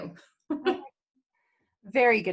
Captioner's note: chuckling